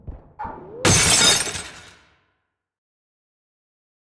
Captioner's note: glass breaks